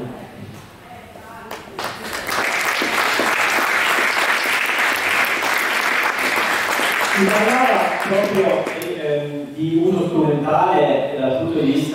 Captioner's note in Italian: Applauso